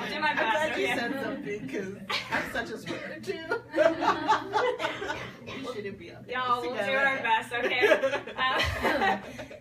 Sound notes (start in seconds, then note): 3.7 both laugh